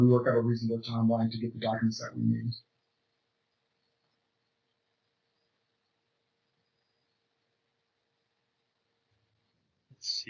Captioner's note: pause